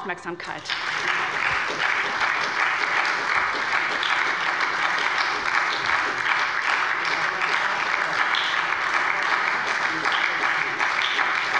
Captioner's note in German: Anhaltender Beifall bei der SPD